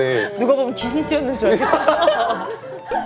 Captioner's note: laughs